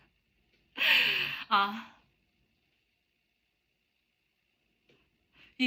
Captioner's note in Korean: 헉 소리